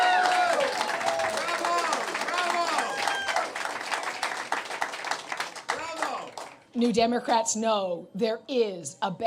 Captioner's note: cheers and Applause